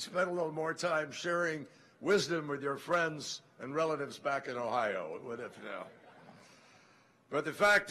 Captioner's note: laughter